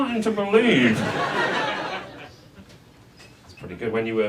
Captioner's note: audience laughs